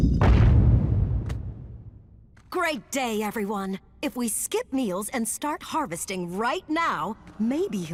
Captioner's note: none